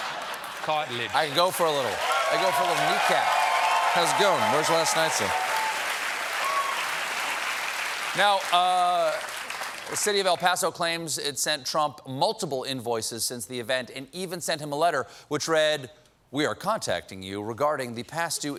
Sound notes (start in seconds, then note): 4.2 applause